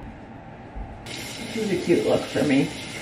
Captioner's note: water running